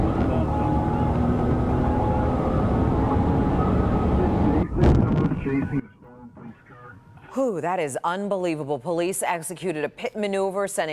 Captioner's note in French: sirens